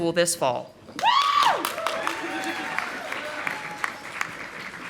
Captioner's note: audience applauding